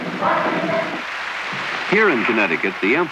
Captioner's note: applause